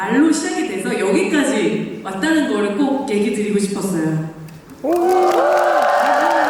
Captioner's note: cheers, applause